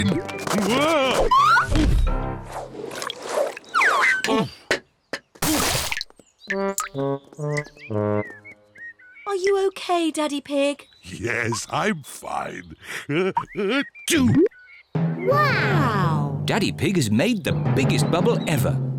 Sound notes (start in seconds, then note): 13.0 sneezes